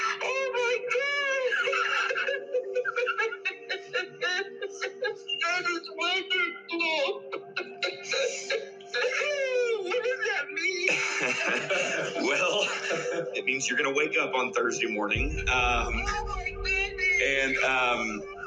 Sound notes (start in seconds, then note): 6.4 sobbing; 10.8 laughs